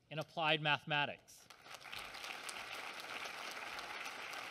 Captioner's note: applause